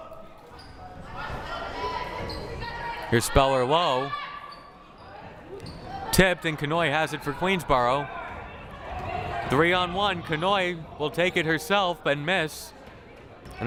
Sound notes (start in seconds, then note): 0.9 crowd murmuring